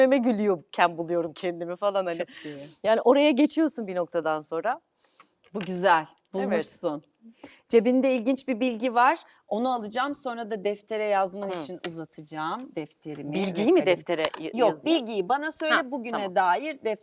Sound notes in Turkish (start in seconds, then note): 3.1 homurdanır